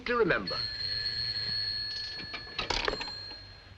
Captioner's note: telephone Ringing